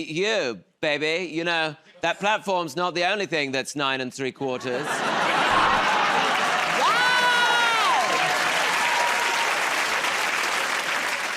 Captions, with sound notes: Hey, you, baby, you know that platform's not the only thing that's 9 3/4. [ Laughter ] -Yes! [ Cheers and applause ]